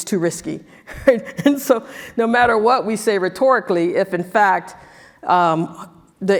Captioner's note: laugh